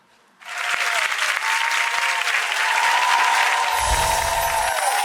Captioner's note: cheering and applause